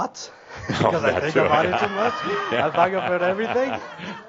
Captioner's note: chuckling; laughter